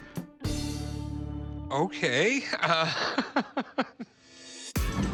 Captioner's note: laughing